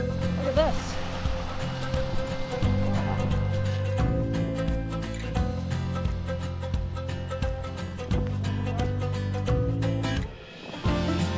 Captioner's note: waves lapping